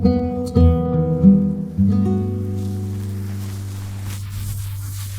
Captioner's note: rustle of dry weeds